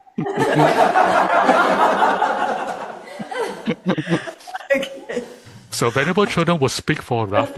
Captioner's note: crowd laughter